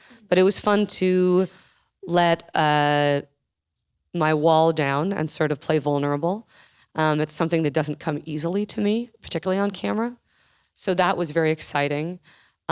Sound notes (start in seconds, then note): none